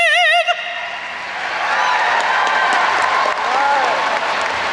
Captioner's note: audience applauds